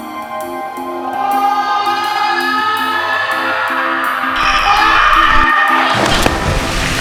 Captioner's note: excited screaming